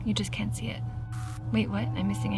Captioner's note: static crackles